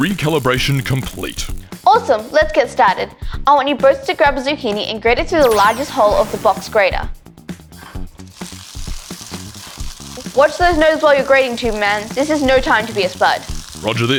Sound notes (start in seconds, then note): 0.0 controls turning; 7.8 grating